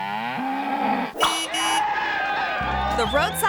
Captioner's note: bull bellows; horn honking; audience cheering